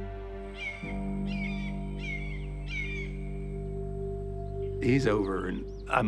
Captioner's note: seagulls squawking